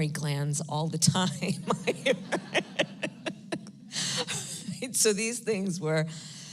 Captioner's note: laughs